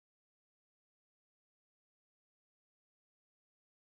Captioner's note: none